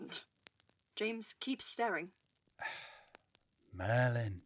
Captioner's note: Sirius exasperatedly sighs